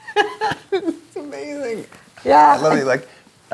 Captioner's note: laughs